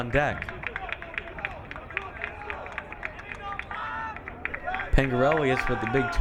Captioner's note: crowd cheering